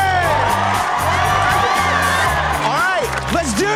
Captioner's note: crowd cheers